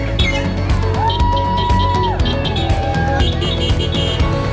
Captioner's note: horns honking